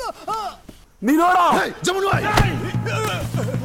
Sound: Malay Language

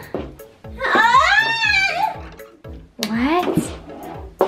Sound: Therma yelling

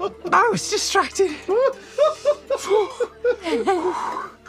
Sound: laughter

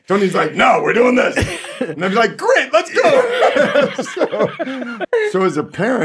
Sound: laughs

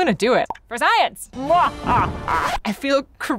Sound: laughing evilly

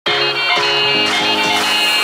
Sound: OLG Win Tone plays in the background

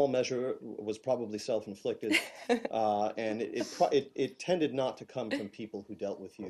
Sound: laughter

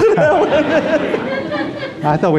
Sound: audience laughs

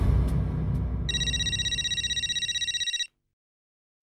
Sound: phone ringing

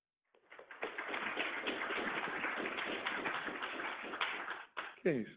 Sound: audience applauds

